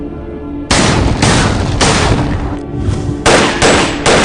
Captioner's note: melodic haunting music; guns firing